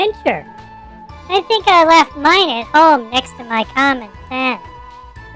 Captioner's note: excitedly; nervously